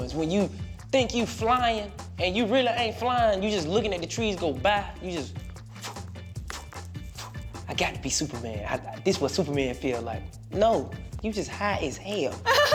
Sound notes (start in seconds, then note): 5.4 wind blowing; 12.2 laughing